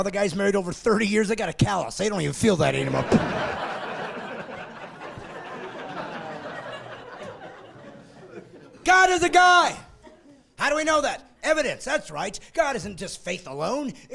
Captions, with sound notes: All the young marrieds get that little elbow thing. Ahh. All the guys married over 30 years, they've got a callus. They don't even feel that anymore. (laughing) God is a guy!